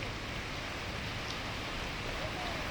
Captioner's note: water rushing